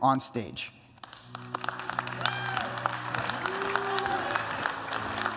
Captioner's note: applause